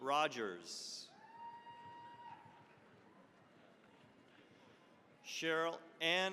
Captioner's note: cheering, applause